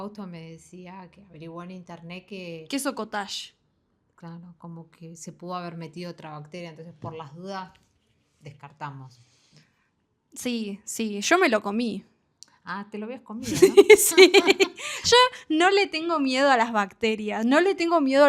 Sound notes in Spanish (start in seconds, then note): 13.4 risas